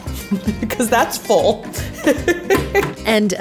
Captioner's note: laughing